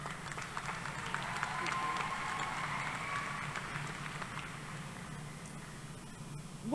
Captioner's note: applause